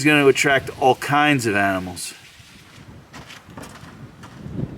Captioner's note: crunching and splashing underfoot